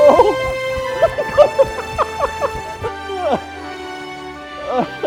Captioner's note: laughing